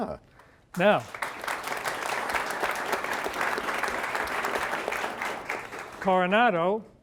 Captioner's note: applause